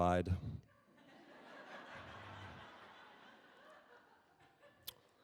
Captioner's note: audience laughing